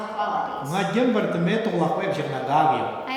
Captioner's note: speaking tibetan